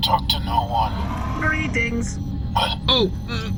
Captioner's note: still over comms